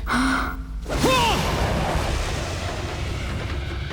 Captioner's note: gasping; grunting